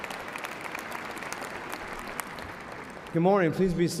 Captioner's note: applause